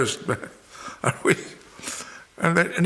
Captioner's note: chuckles